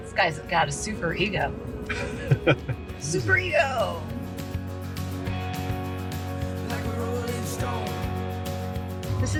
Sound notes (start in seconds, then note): 1.8 laughs